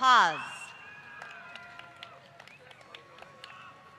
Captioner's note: applause